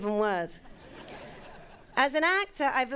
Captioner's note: audience laughing